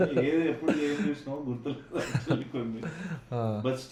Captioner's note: laughs